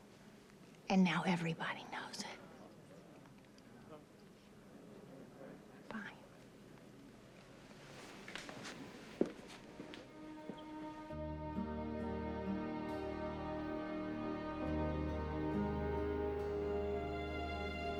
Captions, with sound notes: And now everybody knows it. (crowd chatting) Bye. (slow music)